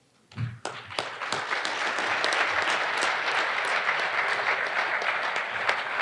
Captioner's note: audience applauding